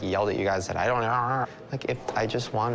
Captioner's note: imitates chattering